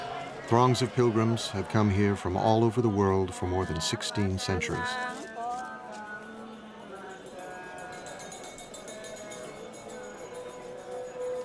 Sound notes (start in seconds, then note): 6.1 bell ringing